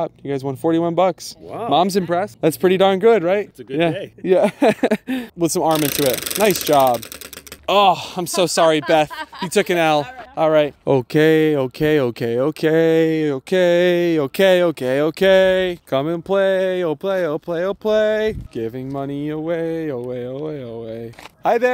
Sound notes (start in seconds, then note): 3.7 laughing